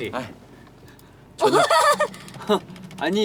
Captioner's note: laughter